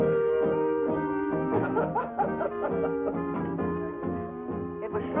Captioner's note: ballroom music; women laughing